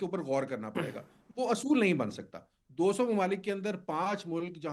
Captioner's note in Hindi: गला साफ़ करने की आवाज़